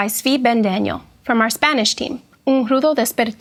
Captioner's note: speaks in foreign language